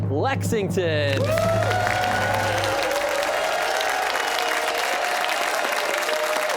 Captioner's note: cheers and applause